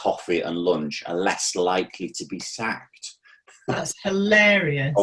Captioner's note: laughing